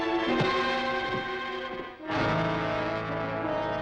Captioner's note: hook thuds; ominous music